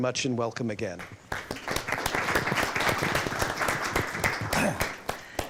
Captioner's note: applause